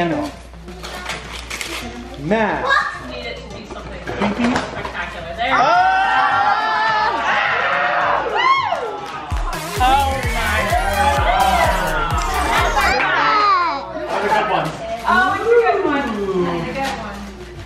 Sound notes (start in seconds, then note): 5.5 crowd yells; 9.2 dance music